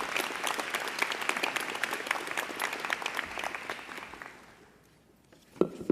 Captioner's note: applause